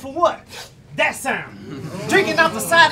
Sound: audience murmurs

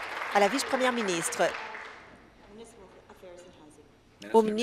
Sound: applause

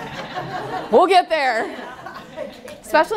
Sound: laughter

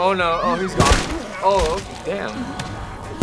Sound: gunshot

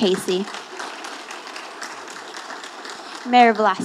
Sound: audience applauding

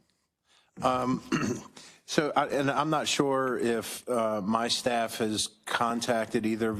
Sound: cough

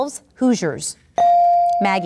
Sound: ding

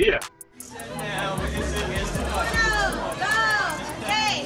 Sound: people chattering

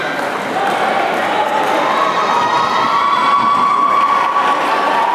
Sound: applause

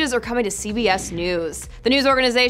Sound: whooshing

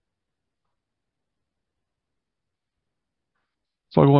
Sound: silence

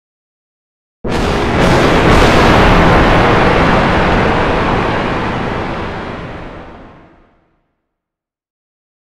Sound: sound of thunder

